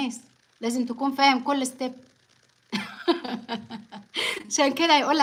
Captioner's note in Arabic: ضحك